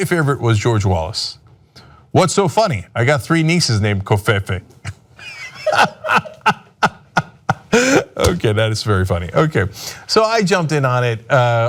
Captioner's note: laughter